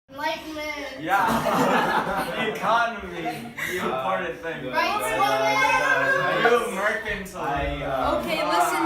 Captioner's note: arguing